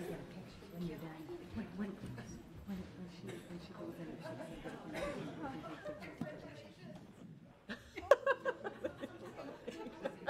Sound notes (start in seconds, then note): 3.0 overlapping chattering